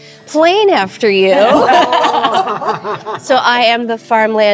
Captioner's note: group laughing